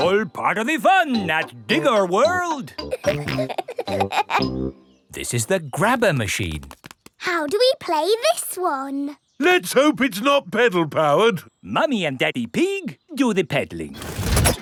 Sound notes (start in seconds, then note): 2.8 peppa and george laughing